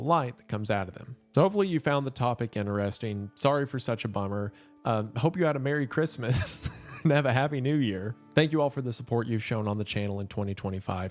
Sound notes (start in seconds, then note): 6.3 laughs